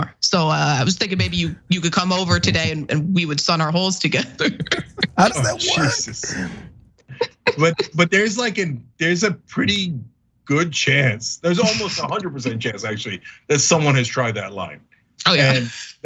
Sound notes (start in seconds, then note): 7.2 laugh